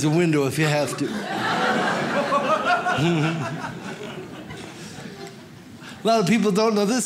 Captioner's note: audience laughs